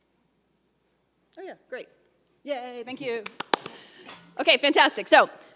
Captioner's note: claps